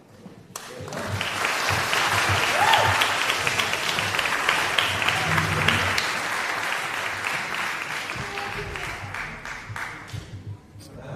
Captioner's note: applause